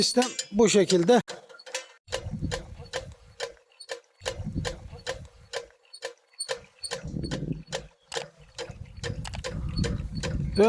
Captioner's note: the clack, clack, clack noises the reel makes while pulling the hose